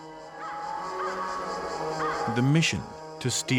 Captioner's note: bird calling